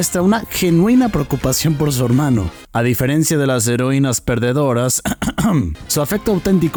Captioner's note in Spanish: ejem, ejem